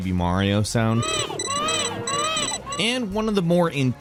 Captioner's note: Baby Mario cries